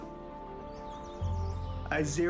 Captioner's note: birds singing